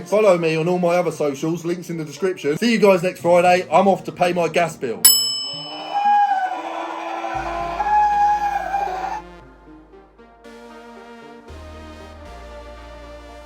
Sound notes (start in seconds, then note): 5.7 screaming; 9.2 calm gentle music